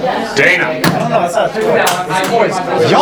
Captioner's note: talking; slam; talking